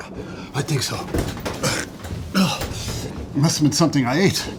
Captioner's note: gagging